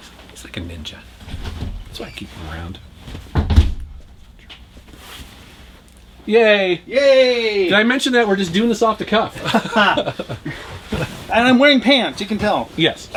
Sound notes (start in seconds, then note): 9.3 laughter